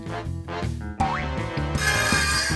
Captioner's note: metal whirring